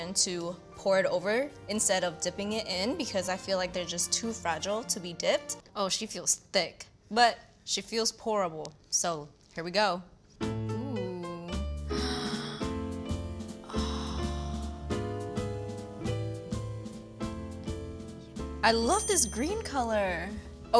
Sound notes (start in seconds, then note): 13.6 gasps; 15.0 gentle jazz music